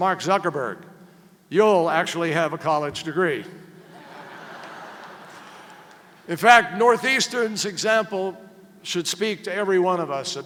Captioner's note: laughter